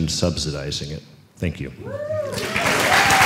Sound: cheers and applause

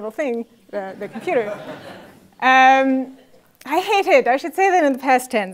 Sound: laugh

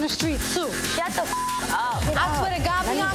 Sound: beep

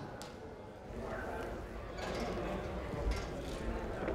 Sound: people chattering

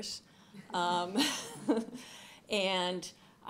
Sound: laughs

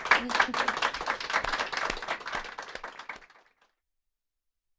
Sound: applause

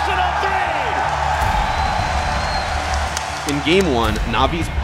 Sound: cheering

